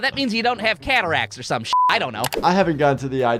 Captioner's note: beep; button clicking; screen whooshing